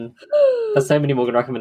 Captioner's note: gasps